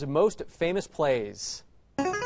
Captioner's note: answer bell